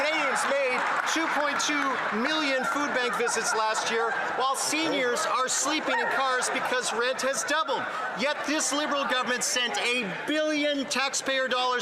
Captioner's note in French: voix de l'interprète